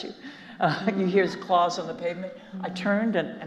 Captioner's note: chuckles